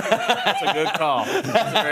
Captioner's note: laughing